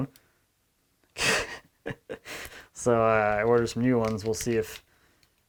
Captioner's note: chuckles